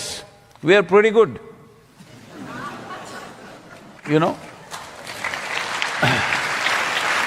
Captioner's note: laughter; applause